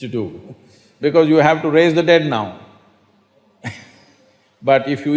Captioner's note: laughs